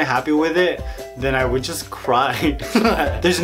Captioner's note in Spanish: Risas